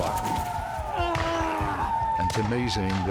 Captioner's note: screaming, gunfire